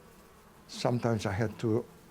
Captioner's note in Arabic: الذباب يطن